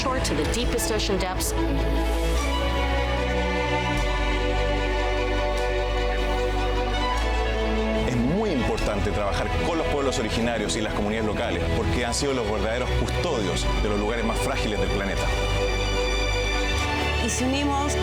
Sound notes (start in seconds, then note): 2.2 uplifting music; 8.5 speaking in foreign language; 17.7 speaking in foreign language